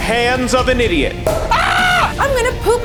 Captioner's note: cork pops and screams